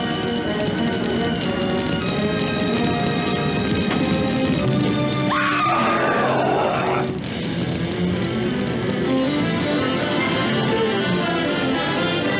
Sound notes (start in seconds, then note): 5.2 screaming